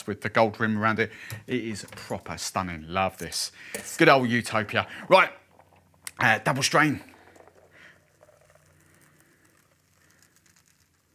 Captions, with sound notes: with the gold rim around it. It is proper stunning, love this. Good old Utopia. Right! Double strain. (pouring liquid)